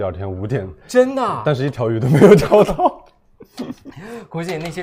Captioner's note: laughs